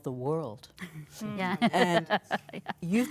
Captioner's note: women agree in unison